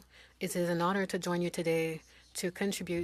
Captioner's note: speaking French